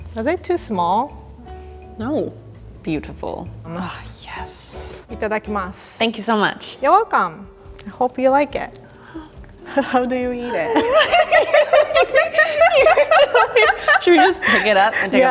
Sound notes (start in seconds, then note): 5.0 speaking foreign language; 10.4 both laughing